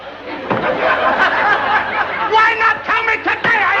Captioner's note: laughter